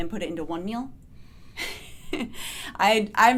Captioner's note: laughs